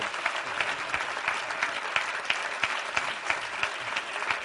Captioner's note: applause